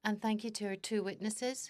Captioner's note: speaking French